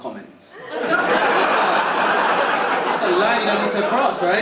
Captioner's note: audience laughing